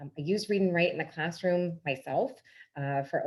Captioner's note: none